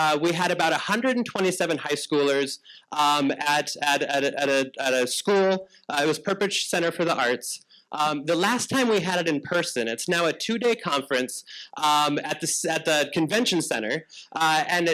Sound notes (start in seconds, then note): none